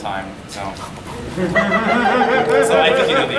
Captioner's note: audience giggling